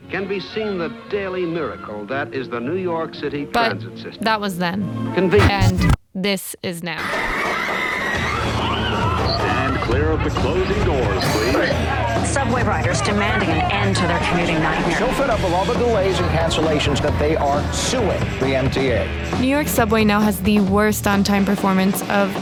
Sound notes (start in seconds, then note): 7.0 screaming